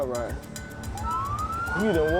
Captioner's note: sirens